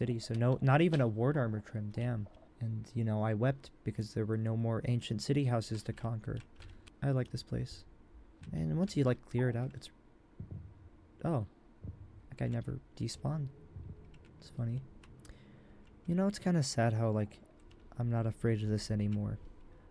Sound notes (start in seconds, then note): 10.4 warden's heart beats